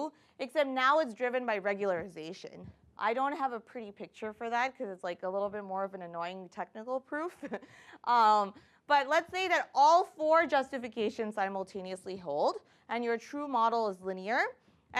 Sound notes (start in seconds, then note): 7.6 chuckles